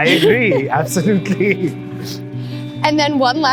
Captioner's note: laughing